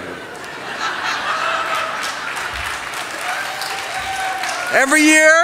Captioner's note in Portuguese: Risos, aplausos